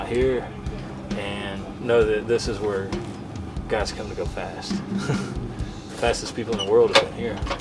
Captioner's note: laughs